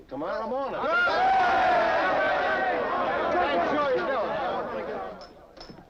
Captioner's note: crowd shouting angrily